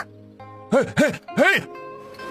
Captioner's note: chuckles nervously